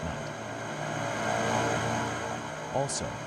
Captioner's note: engines humming